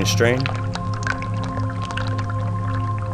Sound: liquid flowing; ethereal music

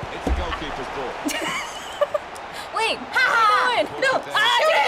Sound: giggling

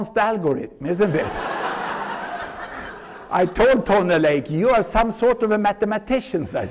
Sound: laughter

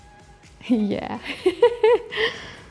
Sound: laughs

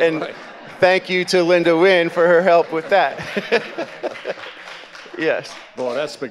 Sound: chuckles

